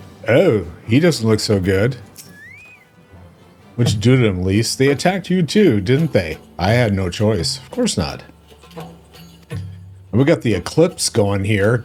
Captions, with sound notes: Oh, he doesn't look so good. (squeals) Let's do them, Lise. They attacked you too, didn't they? I had no choice. Of course not. We got the eclipse going here.